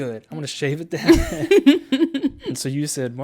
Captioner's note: laughs